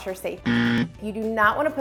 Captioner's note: buzzer